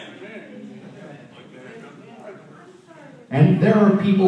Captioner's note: audience chatting